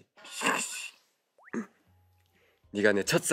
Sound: in pain

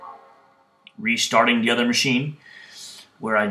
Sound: startup sound

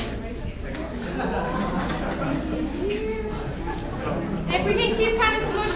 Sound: crowd chattering

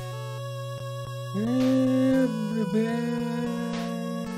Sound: starts to hum the game theme

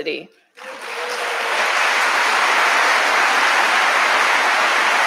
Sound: audience applauding

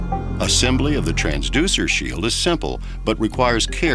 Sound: voiceover

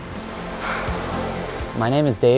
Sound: water rushing

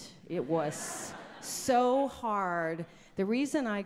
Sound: audience laughs

